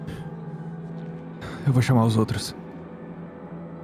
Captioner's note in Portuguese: Suspiro